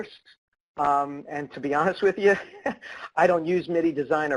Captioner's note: laughs